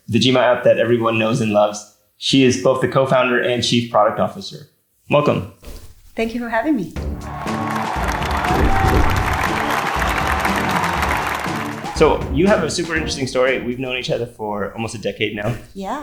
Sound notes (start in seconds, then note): 6.9 inspiring music; 7.0 audience applauding